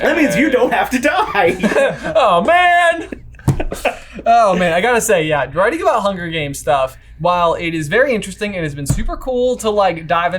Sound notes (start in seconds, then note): 2.9 laughing